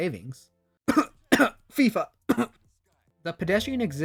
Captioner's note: cough